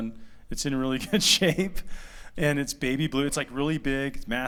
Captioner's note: laughter